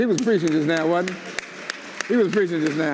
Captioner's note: audience applauds